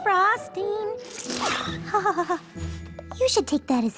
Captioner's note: slurp